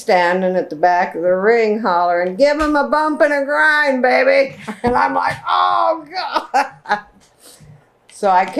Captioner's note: laughter